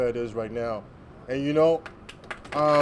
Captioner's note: applause